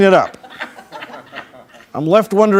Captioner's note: crowd laughing